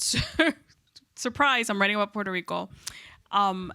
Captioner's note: chuckles